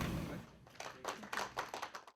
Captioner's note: audience applauds